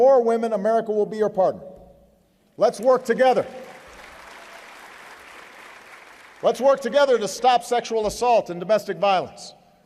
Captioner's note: applause